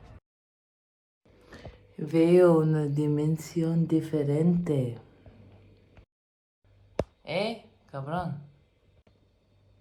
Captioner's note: female voice in muffled spanish